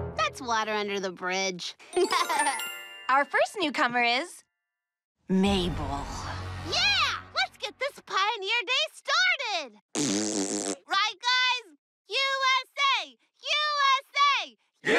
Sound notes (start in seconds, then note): 1.9 giggles; 9.9 blows raspberry